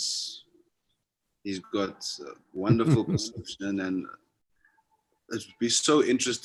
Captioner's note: Sadhguru laughs